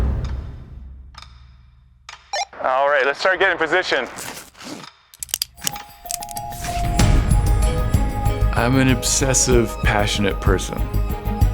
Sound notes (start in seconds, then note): 0.2 gentle suspense music; 2.5 walkie talkie clicks